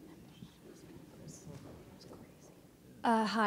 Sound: faintly speaking

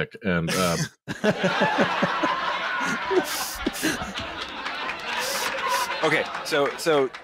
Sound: piped-in audience laughter

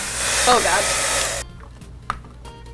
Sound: hair dryer blowing

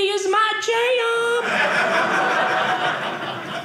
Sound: audience laughing

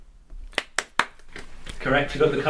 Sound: lacklustre Clapping

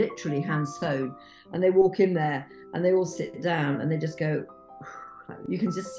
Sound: phew

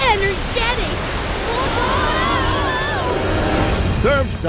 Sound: group yelling

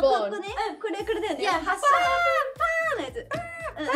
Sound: speaking Korean

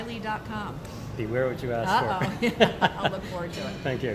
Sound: laughs

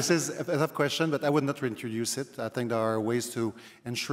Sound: laughter

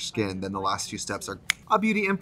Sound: snaps

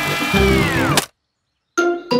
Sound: humming stops

